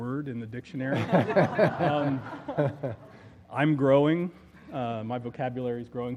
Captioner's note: laugh